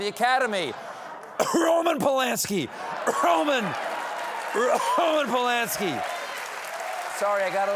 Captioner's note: fake cough